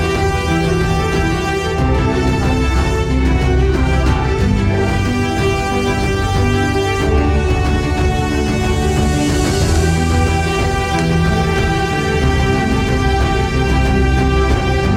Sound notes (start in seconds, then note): 2.3 faint overhead announcement; 10.0 click